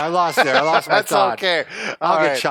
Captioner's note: laughs